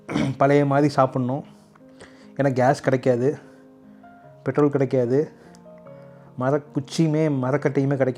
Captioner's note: repairing throat